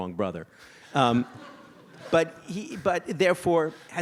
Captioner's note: audience laughs